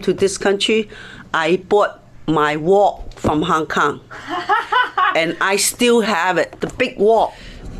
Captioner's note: interviewer laughs